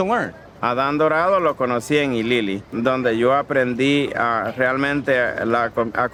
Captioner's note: speaking in foreign language